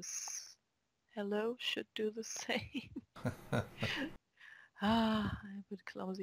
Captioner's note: chuckle